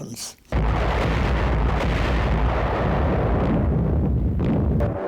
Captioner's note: explosions booming